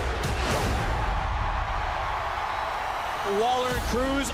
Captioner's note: crowd cheers